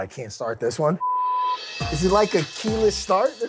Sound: beep

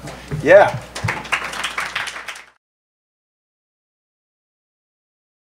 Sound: crowd applauding

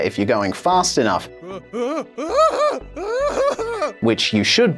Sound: hapless screaming

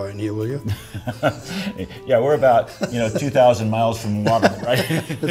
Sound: laughs

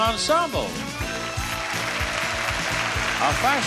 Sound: upbeat music; audience applauding

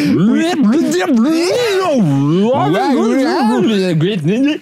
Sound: reverse record noises

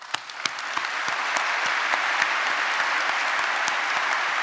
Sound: audience applauding

